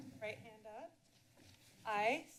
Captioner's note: pause